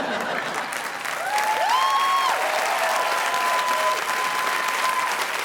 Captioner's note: audience applauding